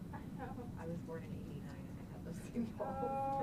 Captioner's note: laughing